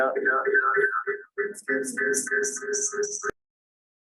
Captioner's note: audio feedback